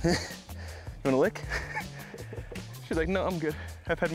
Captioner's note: chuckle